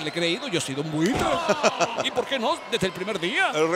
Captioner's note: laugh